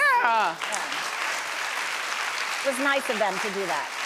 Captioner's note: audience applauds